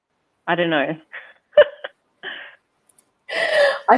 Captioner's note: chuckles